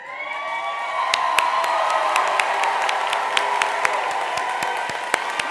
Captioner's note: attendees cheering; attendees applauding